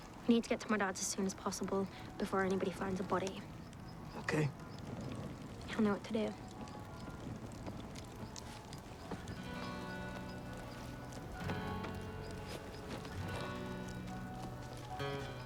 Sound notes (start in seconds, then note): 6.9 distant church bells; 8.4 acoustic guitar